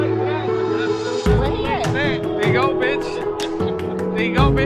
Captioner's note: friends chattering